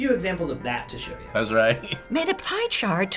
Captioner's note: laughing